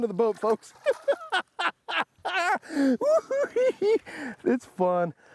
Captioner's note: laughing